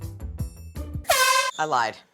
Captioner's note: air horn blast